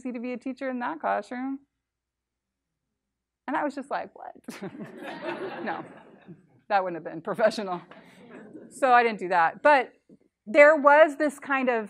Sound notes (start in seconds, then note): 4.5 laughter